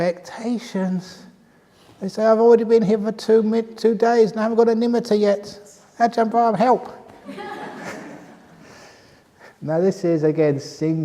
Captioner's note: laughter